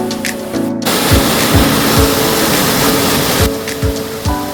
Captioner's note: sound of waterfall